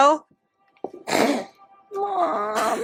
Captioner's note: snort